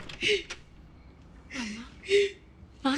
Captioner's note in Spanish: Sollozos